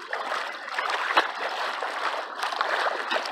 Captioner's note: loud splashing